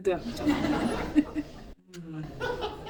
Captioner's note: laughter